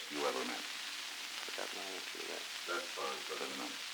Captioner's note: Truman, mumbling